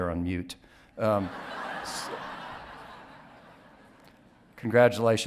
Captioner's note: audience laughing